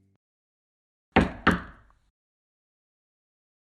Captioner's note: sound cuts out suddenly. pause; a knock at the door